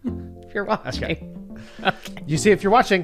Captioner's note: laughs